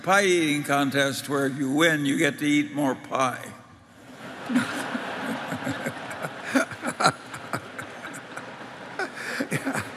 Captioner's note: Laughter; 笑聲